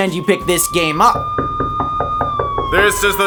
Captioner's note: police sirens